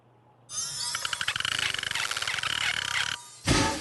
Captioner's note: squeaking